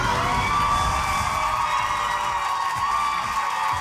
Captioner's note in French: acclamations